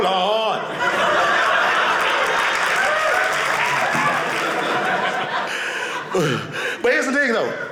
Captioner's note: audience laughing